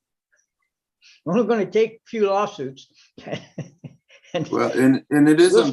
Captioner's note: laughs